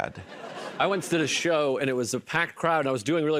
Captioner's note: laughter